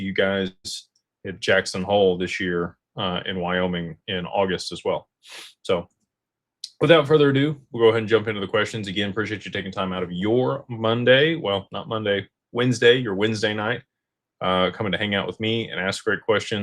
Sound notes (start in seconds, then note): 5.8 snorts